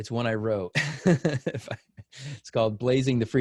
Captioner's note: laughs